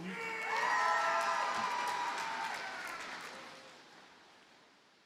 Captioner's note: audience cheers and applauds